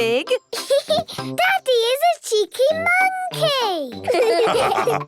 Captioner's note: laughs; all laugh